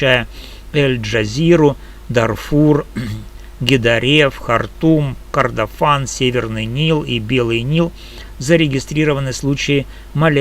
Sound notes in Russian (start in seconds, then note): 2.9 откашливается